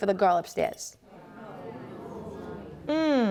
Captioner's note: audience murmurs